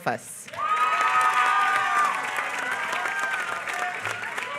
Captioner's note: applause